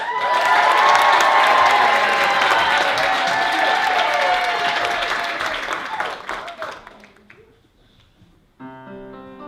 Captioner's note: applause